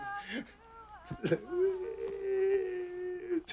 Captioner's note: sobbing